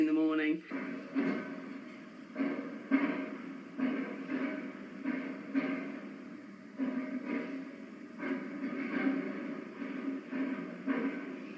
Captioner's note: loud metallic banging